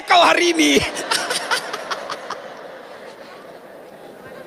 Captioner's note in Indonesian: tertawa